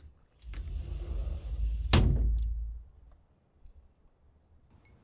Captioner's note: closes door